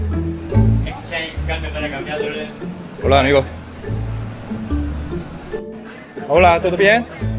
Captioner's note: countless money changers shouting and soliciting